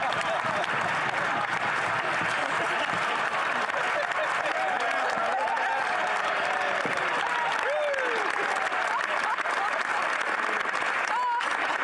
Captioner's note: some Laughter